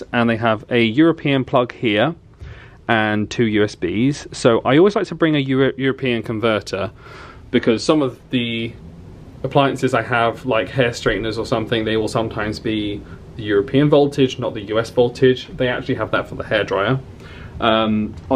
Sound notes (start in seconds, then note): none